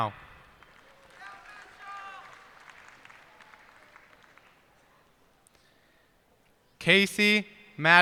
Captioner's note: cheers and applause